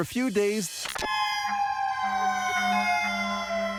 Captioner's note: siren wailing